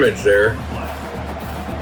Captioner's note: crowd Noises